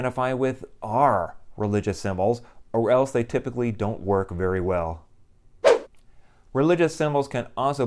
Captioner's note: swoosh